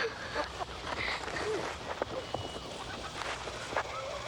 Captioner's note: Miranda crying